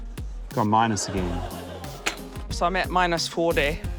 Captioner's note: laughter